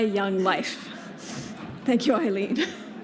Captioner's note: laughter